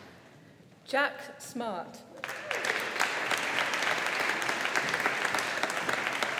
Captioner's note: audience applauding